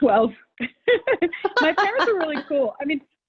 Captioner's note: laughs